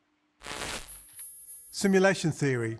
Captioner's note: static crackling